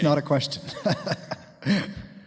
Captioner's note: laughs